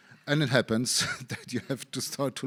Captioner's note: chuckles